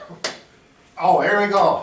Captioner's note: claps